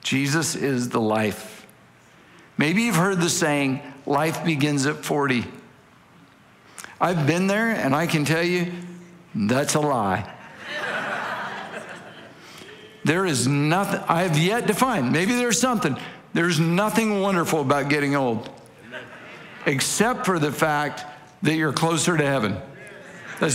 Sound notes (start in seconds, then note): 10.2 congregation laughing